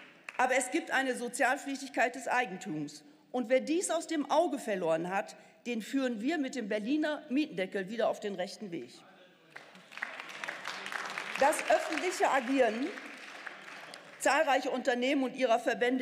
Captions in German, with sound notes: Aber es gibt eine Sozialpflichtigkeit des Eigentums. Und wer dies aus dem Auge verloren hat, den führen wir mit dem Berliner Mieten- deckel wieder auf den rechten Weg. (Beifall) Das öffentliche Agieren zahlreicher Unternehmen und ihrer Verbände